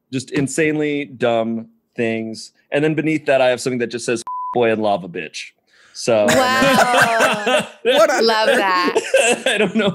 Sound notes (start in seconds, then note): 4.2 beep; 6.3 laughing